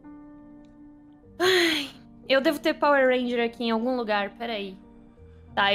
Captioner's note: sigh